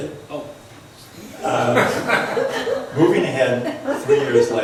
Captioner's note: laughs